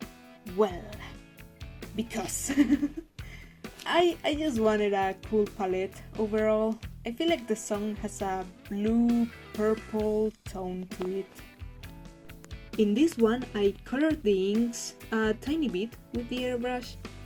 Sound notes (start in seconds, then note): 2.5 laughs nervously